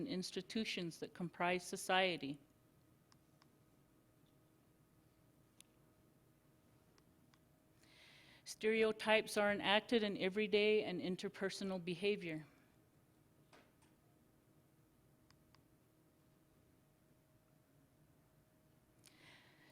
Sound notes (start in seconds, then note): 2.4 silence; 13.7 silence